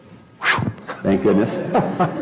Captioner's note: laugh